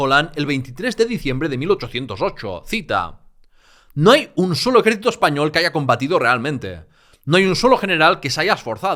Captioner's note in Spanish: español